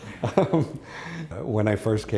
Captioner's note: laughs